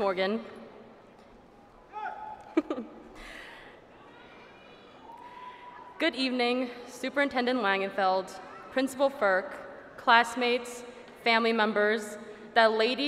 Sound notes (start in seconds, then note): 2.4 laughs